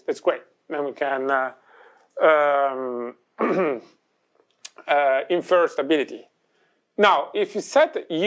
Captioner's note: clears throat